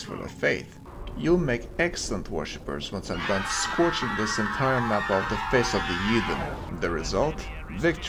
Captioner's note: screams of the damned